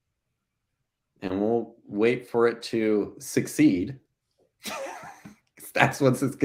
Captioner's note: laughing